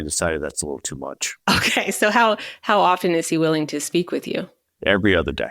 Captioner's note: chuckling